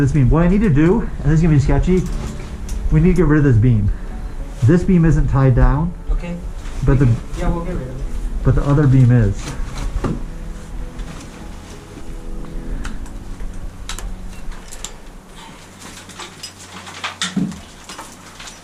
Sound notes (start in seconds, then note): 9.7 metallic clinking; 9.7 shuffling